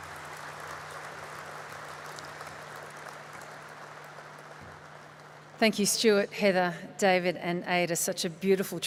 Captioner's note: applause